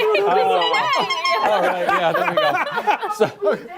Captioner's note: laughter